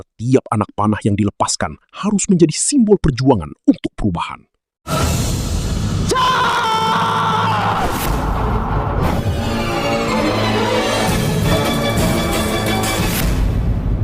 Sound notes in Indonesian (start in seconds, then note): 6.1 berteriak